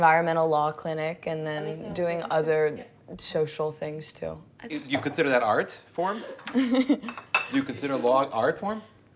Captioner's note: laughs